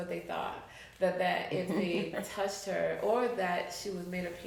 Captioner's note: chuckles